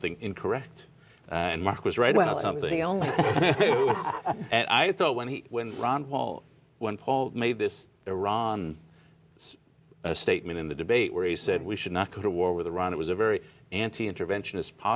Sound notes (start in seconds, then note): 2.9 laughter